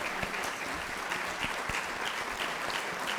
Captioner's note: applause